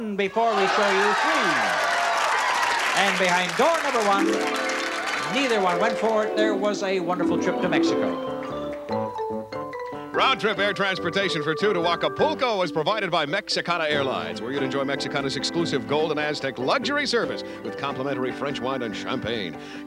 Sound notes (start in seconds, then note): 0.5 applause